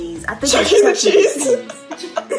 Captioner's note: laughing; all laugh